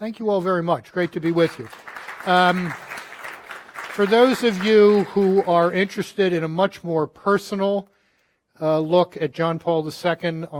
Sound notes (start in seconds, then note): 1.0 audience applauding